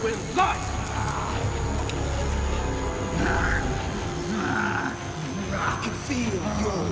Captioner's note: electricity crackling; William growls